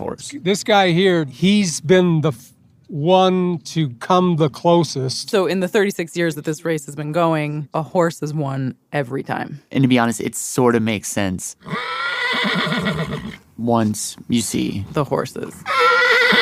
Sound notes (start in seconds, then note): 11.6 horse neighs